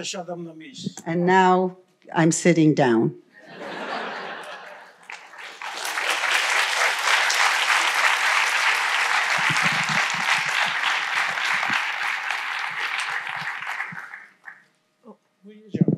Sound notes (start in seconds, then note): 0.0 foreign language; 5.4 laughter; 8.0 applause